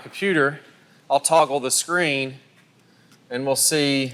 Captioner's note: voiceover